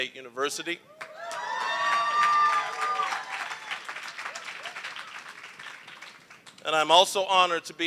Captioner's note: applause, cheering